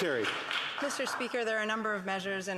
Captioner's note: applause